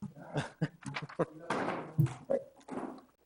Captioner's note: laughs